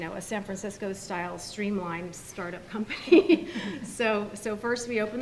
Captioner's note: laughs